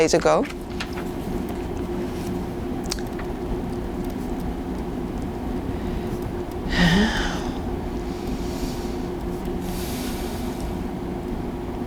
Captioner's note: sighing